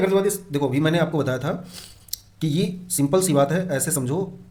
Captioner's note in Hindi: नाक से की जाने वाली आवाज़